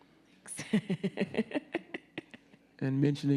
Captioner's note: laughs